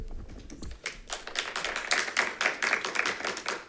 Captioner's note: members clapping